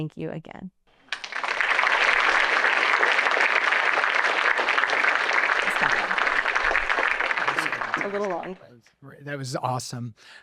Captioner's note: applause